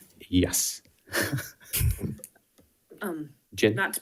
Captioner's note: laughing